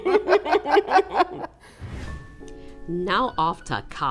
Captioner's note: laughter